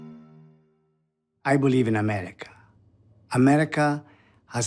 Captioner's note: trying to mimic Bonasera